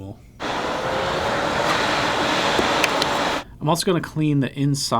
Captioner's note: vacuum whirring